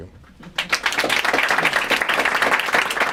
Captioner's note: applause